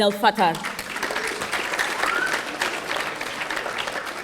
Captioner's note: audience applauding